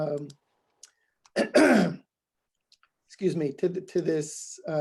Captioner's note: coughs